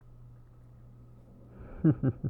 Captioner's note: SFX: voice slightly muffled